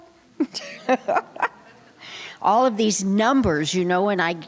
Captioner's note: laughter